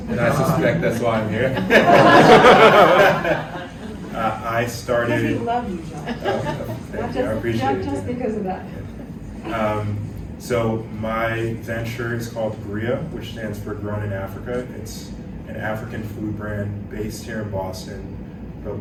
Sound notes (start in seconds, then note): 2.1 laughter